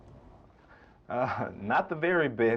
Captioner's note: laughing